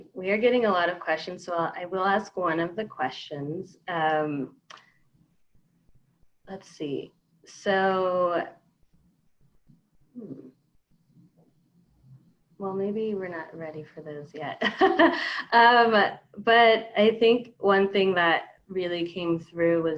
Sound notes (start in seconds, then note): 15.3 laughs